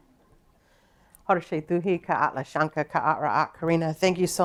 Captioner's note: speaking her language